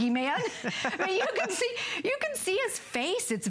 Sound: laughter

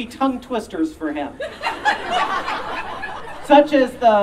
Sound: audience Laughing

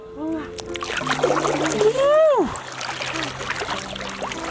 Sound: water splashing

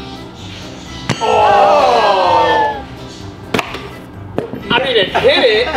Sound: group groaning in dismay

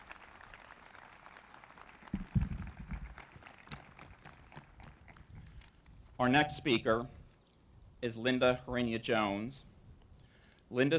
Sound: applause

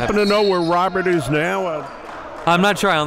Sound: players and coaches yelling; whistle blows

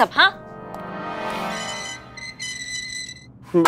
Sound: prison door opening

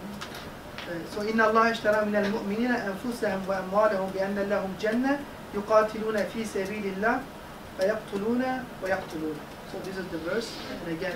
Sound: Arabic

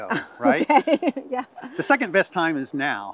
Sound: laughs

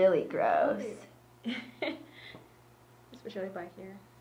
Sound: laughs

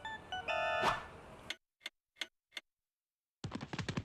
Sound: clock ticking

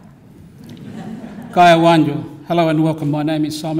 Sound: speaks greeting in language

